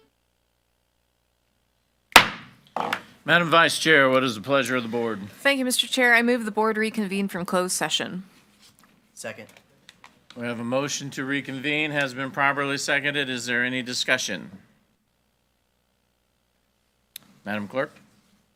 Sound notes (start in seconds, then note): 2.5 gavel bangs